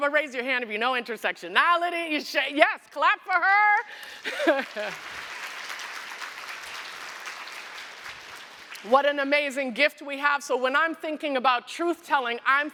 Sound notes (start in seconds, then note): 3.8 applause